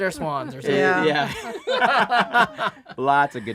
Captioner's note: laughing